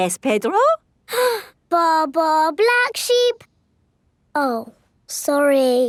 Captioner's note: inhales